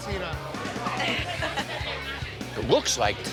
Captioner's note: laughs